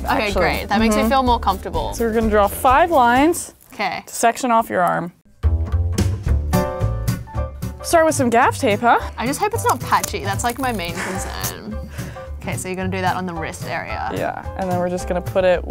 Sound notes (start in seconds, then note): 5.3 upbeat music; 9.3 tape ripping; 10.9 snickers